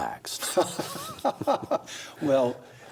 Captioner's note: laughs